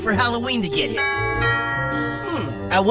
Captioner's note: doorbell rings